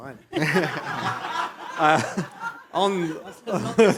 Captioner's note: laughter